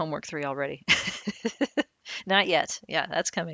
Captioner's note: laughing